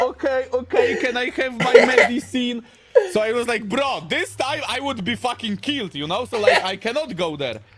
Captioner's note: laughter; laughter